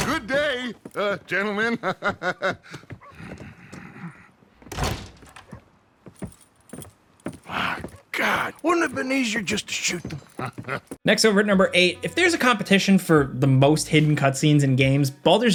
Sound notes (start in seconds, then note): 0.9 laughs; 4.6 door slams; 6.1 footsteps tapping; 9.7 character laughs